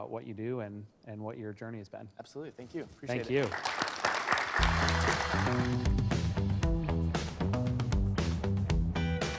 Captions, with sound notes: what you do and what your journey has been. - Absolutely. Thank you. Appreciate it. - Thank you. (audience applause) (upbeat music)